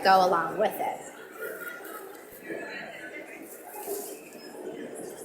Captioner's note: audience mumbling